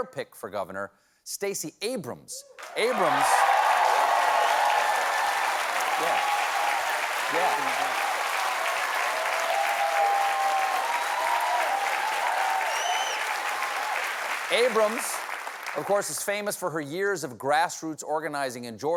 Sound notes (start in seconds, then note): 5.4 cheers and applause